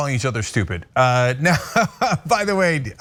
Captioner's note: laugh